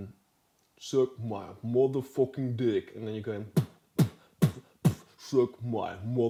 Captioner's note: beatboxing